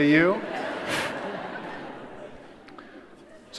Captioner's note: laughter